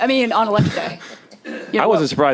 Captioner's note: chuckling